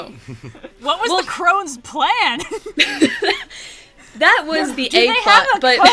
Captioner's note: laughs